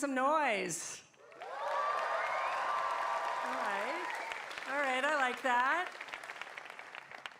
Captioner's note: cheers and applause